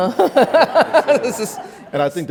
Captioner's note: laughs